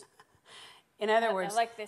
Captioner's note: laughing